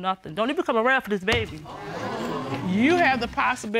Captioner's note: audience exclaiming